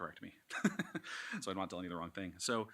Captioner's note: laughs